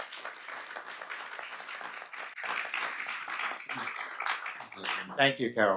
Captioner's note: audience and panelists applaud